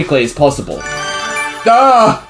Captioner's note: dinky sparkling sound effect